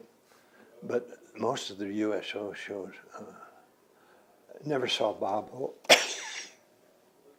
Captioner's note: coughs